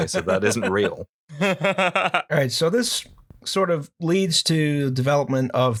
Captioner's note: laughter